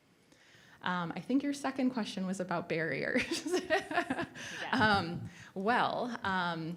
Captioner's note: laughs